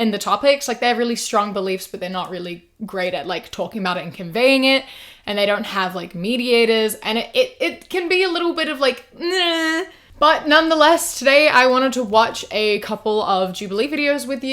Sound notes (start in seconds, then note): 8.3 sceptical noises